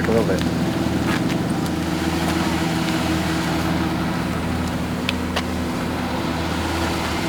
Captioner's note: truck engine humming; anxious music